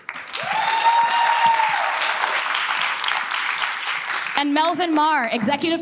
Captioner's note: audience cheers and applauds